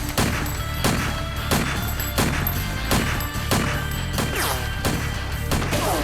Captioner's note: gun fires; slow dramatic music